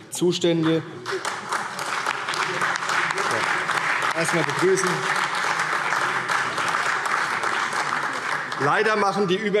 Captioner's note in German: Beifall CDU, BÜNDNIS 90/DIE GRÜNEN, SPD, Freie Demokraten und AfD